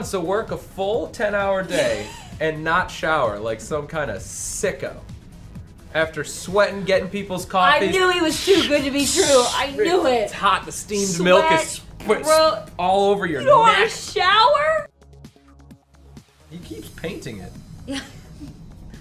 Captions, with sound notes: So he wants to work a full 10-hour day and not shower, like some kind of sicko, after sweating, getting people's coffee. I knew he was too good to be true. I knew it. [imitating steam] It's hot. The steamed milk is-- - Sweat. Gross. --all over your next. You don't want to shower? He keeps painting.